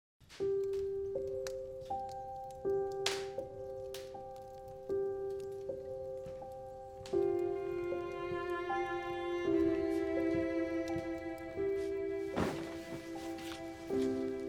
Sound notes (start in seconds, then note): 0.2 slow, gentle music; 4.8 fire crackling